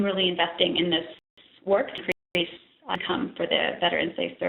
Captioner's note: audio dropping